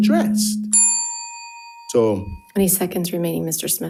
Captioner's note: bell dings